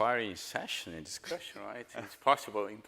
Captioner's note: panelists chuckling